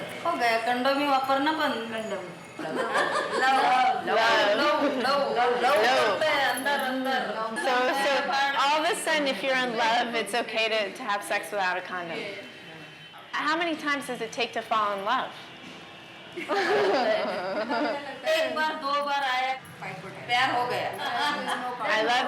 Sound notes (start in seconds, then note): 2.6 women laughing; 5.7 laughing, speaking Indian language; 16.4 women laughing